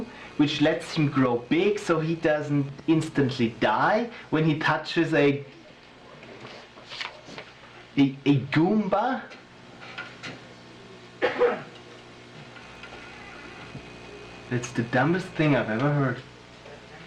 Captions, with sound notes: which lets him grow big so he doesn’t instantly die when he touches a… a “Goomba”? [someone coughs] That’s the dumbest thing I’ve ever heard.